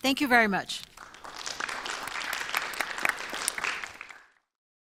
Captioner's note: audience applauds